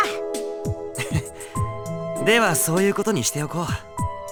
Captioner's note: chuckle